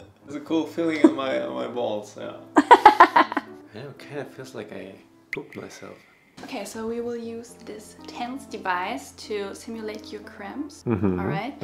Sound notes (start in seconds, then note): 2.6 laughing